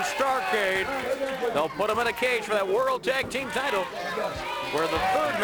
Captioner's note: crowd cheering